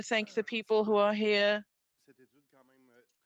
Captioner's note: speaking French